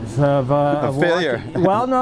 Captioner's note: laughs